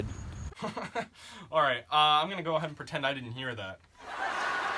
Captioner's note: laughing; audience laughs